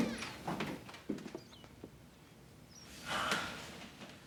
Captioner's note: door clicking